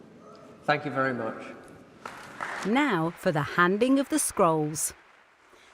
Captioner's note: applause